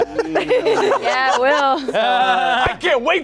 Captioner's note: laughing; everyone laughing